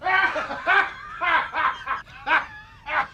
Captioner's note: laughing